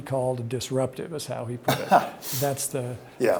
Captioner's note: Mark chuckles